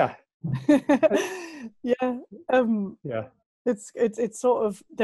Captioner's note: lacht